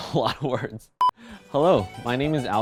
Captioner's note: beep